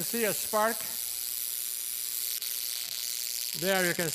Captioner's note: tesla coil's current buzzing